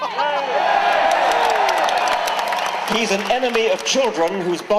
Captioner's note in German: Jubeln